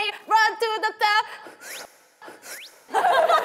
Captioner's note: breathes in; laughing